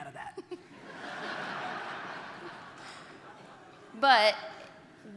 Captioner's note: audience laughter